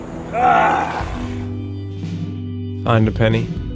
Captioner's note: Satan groaning